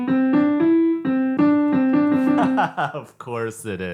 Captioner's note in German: lacht